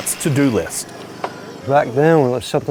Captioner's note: saw whirring fades